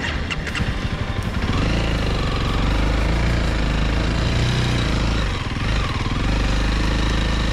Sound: engine revving

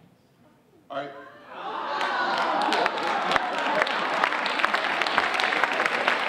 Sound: audience exclaiming and applauding

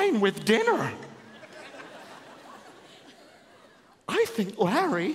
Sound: audience laughing

